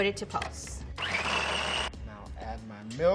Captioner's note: food processor running